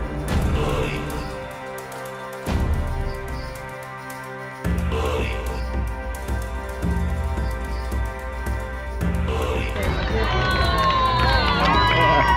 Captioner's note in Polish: Aplauz